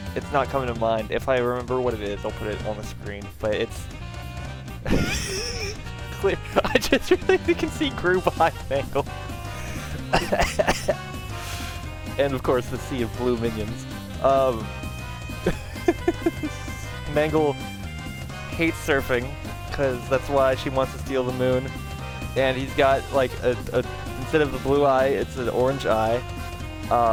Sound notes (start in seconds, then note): 4.7 laughing; 9.4 cough laughing; 15.4 laughing